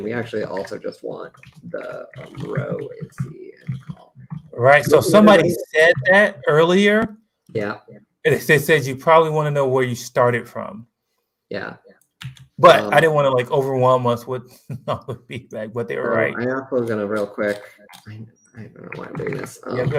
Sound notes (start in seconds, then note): 14.7 laughs